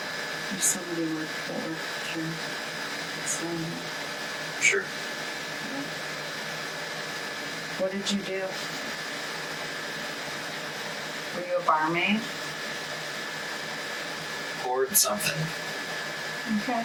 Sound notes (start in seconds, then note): 0.7 faintly speaking